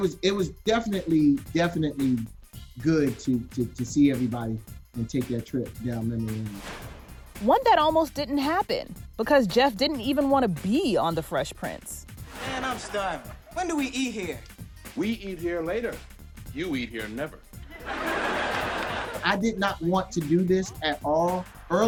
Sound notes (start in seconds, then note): 17.6 audience laughs